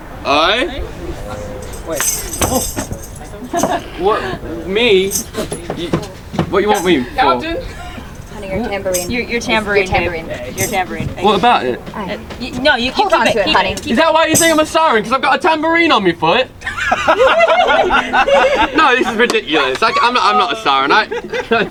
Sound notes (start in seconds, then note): 1.6 tambourine jangling; 12.3 people chattering; 16.6 audience laughing